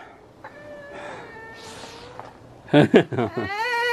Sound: groaning

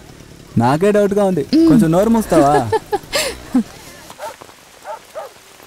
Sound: laughs

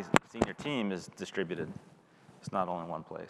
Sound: microphone crackling

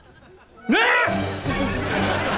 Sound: screams

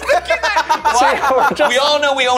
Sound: Jarvis laughing

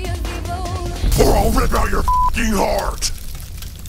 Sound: demonic voice

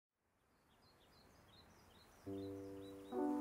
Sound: birds chirping; soft piano music

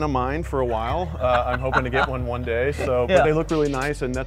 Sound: laughs

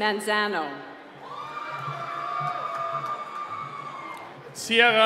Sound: cheering

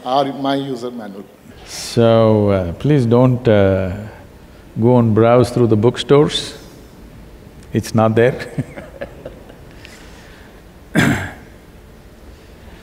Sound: laughs

